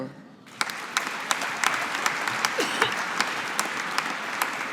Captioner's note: audience applauding